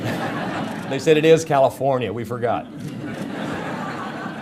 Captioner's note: audience laughter